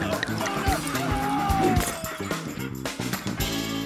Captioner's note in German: Hämisches Lachen